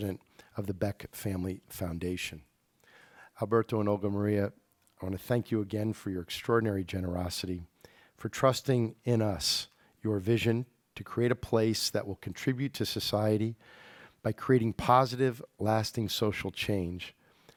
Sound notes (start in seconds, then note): none